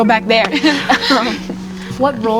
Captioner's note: laughing